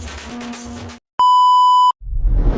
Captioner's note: Beep